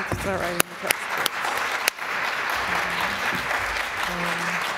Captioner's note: applause